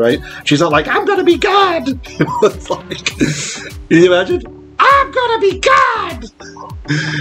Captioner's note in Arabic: صوت أنثوي مضحك